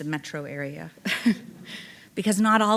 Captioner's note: chuckling